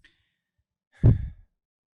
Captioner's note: e x h a l e